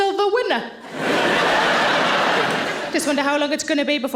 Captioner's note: audience laughing